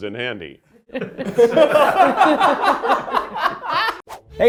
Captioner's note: laugh